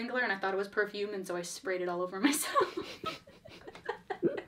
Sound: laughs

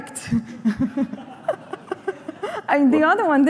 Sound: laughter

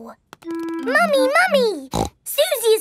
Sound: snorts

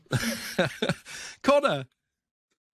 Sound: laughs

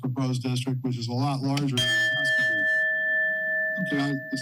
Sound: bell dings

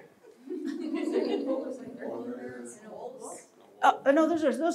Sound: audience members speaking

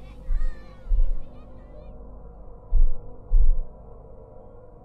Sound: children's voices fade; low echoey hum begins

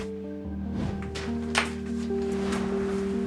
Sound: somber music; swoosh, cable falls

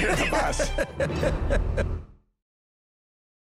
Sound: laughter

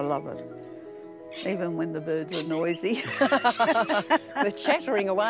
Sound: laughs

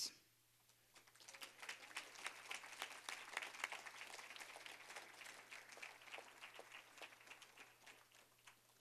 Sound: applause

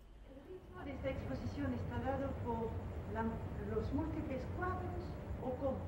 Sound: speaking foreign language

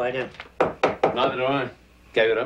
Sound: tapping pipe

